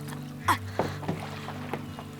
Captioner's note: sighs